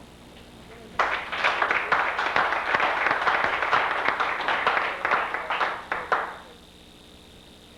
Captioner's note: applause